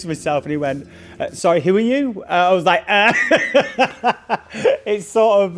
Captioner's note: laughing